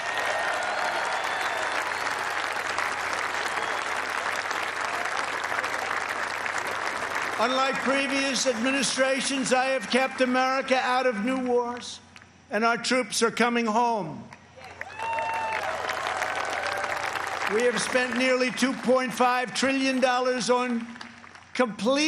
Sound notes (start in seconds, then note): 4.9 applause